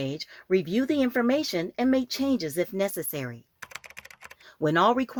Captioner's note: SFX typing